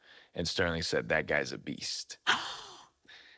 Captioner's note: gasps